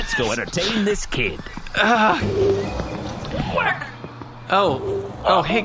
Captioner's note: Pleck groans